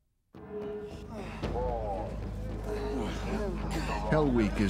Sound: grunting; voiceover

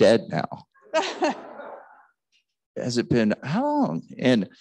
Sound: laughing

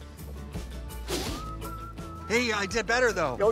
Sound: spits

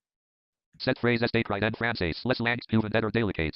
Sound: screen reader attempting French with American Accent

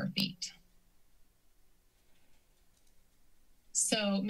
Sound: silence

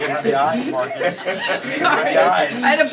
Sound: laughter

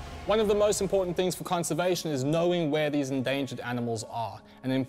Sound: none

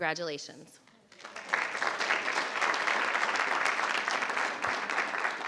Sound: crowd clapping

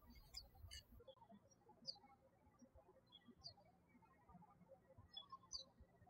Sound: birds chirping

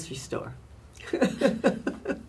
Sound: laughs

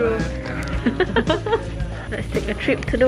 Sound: giggles

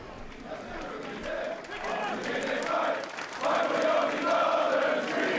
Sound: football player chanting

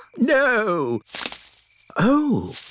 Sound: rustling

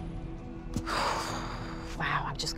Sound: sighs

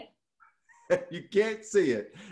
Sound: laughs

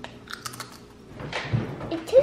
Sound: chip crunch

